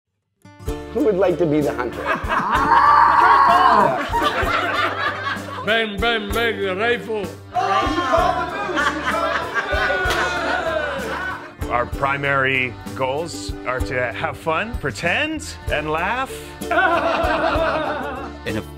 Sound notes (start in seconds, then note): 1.9 laugher; 2.1 moose noises; 3.6 laughter; 7.5 laughing & cheering; 16.7 laughter